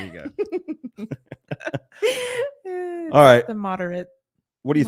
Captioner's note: both laughing